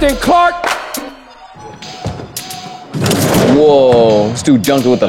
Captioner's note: dunk sound